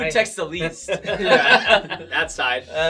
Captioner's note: all laugh